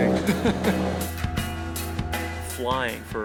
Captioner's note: laughing